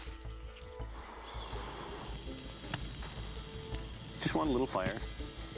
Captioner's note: blowing